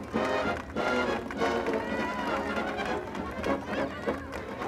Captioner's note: marching band playing; applause